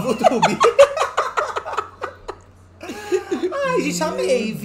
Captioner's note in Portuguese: gargalhadas